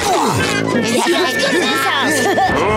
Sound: chattering; groaning

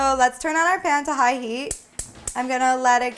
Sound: stove clicking

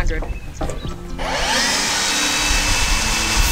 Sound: chop Saw Cuts; upbeat Music

